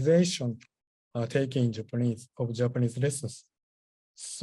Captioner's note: japanese